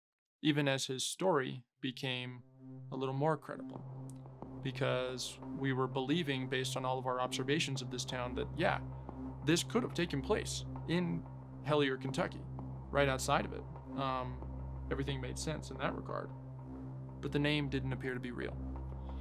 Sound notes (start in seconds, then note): none